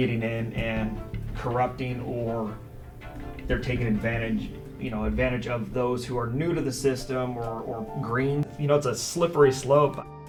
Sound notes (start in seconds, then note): none